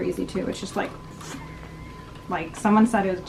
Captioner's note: whooshes